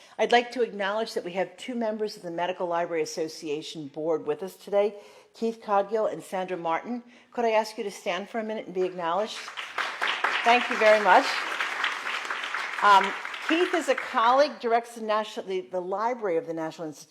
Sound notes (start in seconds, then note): 12.3 applause